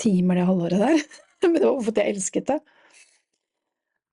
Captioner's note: laughs